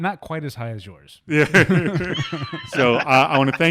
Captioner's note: laughing